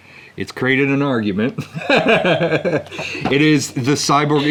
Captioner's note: laughs